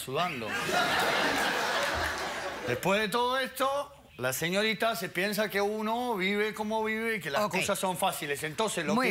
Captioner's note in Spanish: Risas